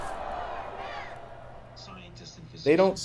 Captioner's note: TV news broadcasts